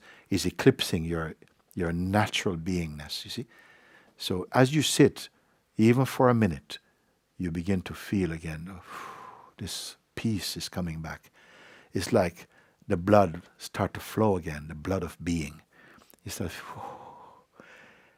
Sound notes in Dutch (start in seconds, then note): 8.8 ademt uit; 16.6 ademt uit